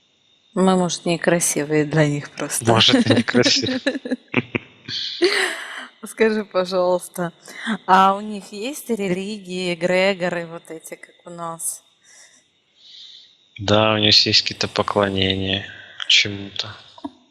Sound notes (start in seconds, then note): 2.2 laughing